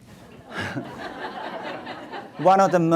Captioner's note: audience laughs